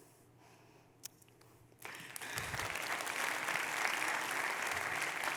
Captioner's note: audience clapping